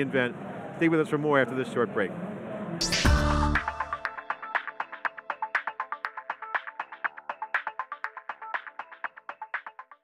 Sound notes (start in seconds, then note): 2.8 futuristic electronic music; 2.8 futuristic beep